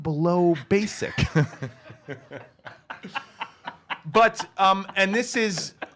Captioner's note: laugh